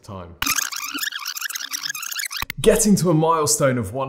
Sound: squeaky fast-forward

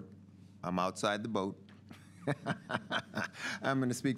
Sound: laughs

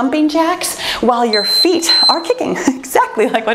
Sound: timer beeping

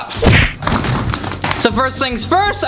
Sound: flip-flops falling on table

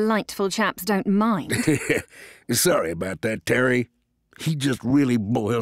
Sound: chuckles

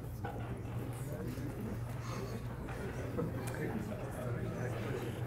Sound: crowd talking

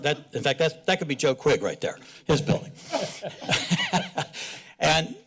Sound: laughs

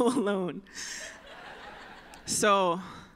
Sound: laughter

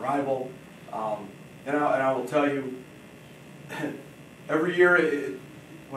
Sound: chuckles

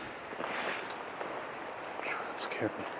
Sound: footsteps thudding

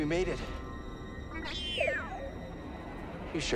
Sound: excited beep

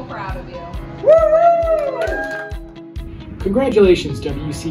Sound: applause

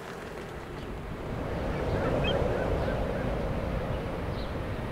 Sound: wind howling

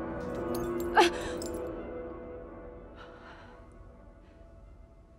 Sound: glass clinks, groans

